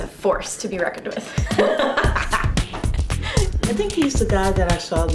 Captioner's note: actress laughs